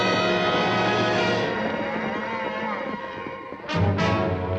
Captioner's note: cattle lowing